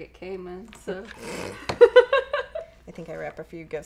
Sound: laughing

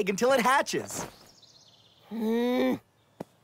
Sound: Neil groans

